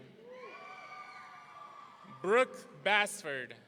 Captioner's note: audience cheering